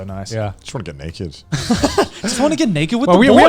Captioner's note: laughing